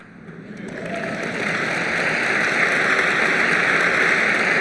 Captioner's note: applause